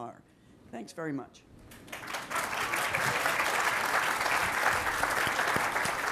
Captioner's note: applause